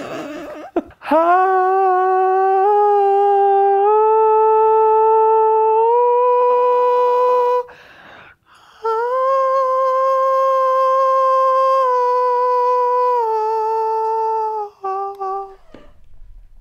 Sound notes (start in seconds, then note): 0.0 vocalizes; 8.8 vocalizes